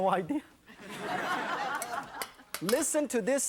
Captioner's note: audience laughs